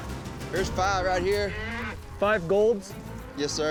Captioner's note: cow moos